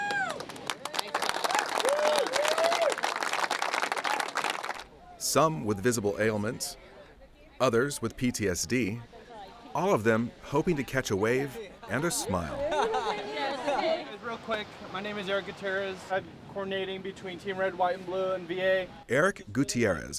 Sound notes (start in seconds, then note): 1.5 applause; 12.0 laughing